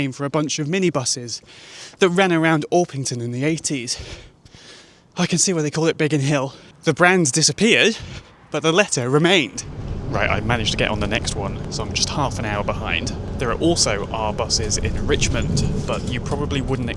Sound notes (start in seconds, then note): 3.9 out of breath